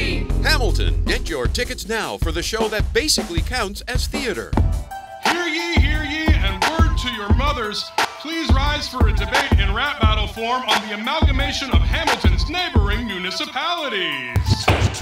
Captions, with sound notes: [Voiceover] Hamilton. [Voiceover] Get your tickets now for the show that basically counts as theatre. Hear ye, hear ye and word to your mothers, please rise for a debate in rap battle form on the amalgamation of Hamilton's neighbouring municipalites!